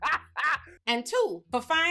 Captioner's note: laughing